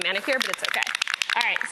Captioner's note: spray paint can rattles